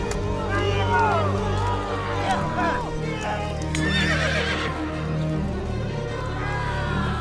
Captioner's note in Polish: okrzyki bolszewików, odgłosy walki